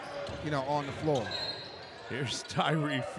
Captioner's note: whistle blows